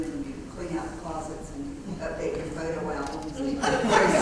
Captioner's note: laugh